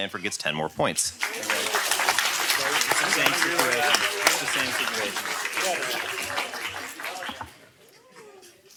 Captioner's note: applause